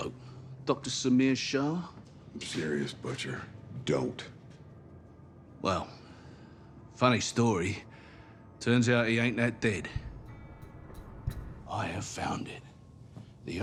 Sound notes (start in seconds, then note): none